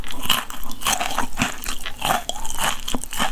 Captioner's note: crunchity crunch crunch